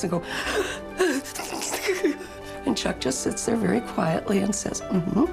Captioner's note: gasping sounds